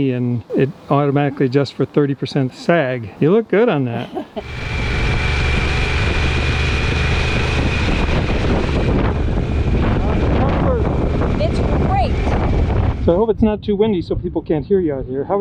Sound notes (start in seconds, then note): 4.0 laughs; 4.4 motor revving